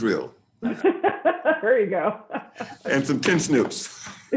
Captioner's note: laughs